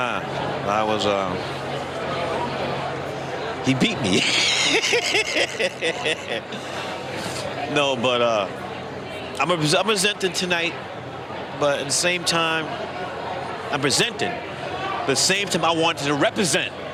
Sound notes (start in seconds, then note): 2.3 laughter